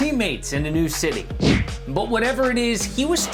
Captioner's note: whoosh